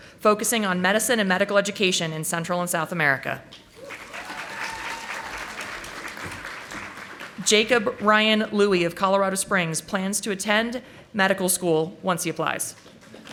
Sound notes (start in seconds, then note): 3.7 audience applauding